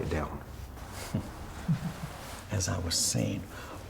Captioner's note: Leon and Tristan chuckle